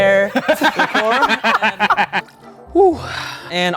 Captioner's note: everyone laughing